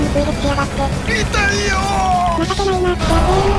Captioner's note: crying